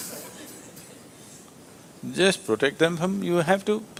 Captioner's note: laughs